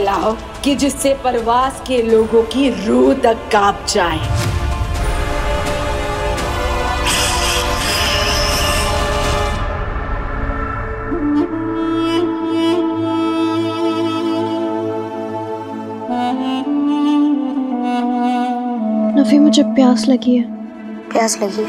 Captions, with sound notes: that even the soul of the people of Parvaz gets afraid. [hissing] - Nafi, I'm thirsty. - You are thirsty?